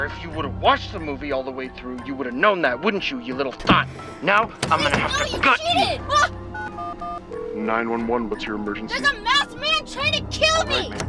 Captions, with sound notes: If you would've watched the movie all the way through, you would've known that, wouldn't you, you little thot? Now, I'm gonna have to-- - No, you cheated! (phone beeping) - 911, what's your emergency? - There's a masked man trying to kill me!